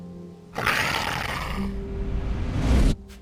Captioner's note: wolf snarling; soft dramatic music